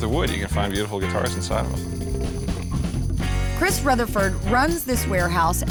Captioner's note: none